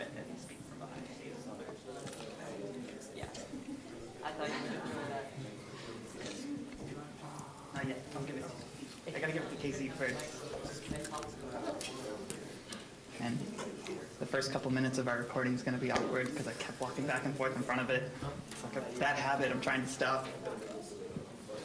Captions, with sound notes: and speak from behind the table. (general chatter) I've got to give it to Kyezie first. >> 'Cause I talk really loud. >> The first couple minutes of our recording's going to be awkward 'cause I kept walking back and forth in front of it. It's like a bad habit-- I'm trying to stop.